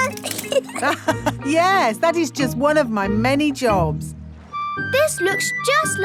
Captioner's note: laughs